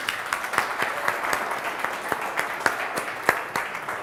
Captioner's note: audience applauding